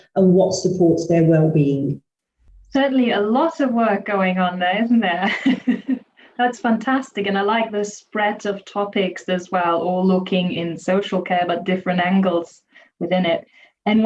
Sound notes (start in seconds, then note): 5.2 chuckles